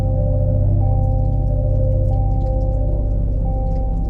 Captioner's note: water drips